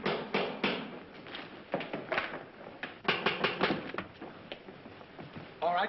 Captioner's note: tapping